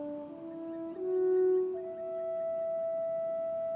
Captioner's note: bird calling